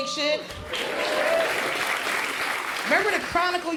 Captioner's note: crowd applauds